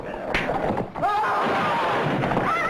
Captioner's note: gunshot